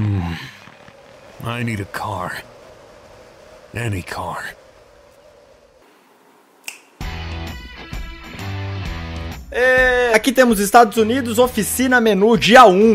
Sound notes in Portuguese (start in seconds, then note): 6.6 estalo de dedos